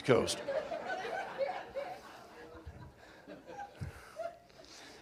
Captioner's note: laughter